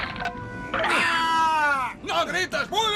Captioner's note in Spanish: grita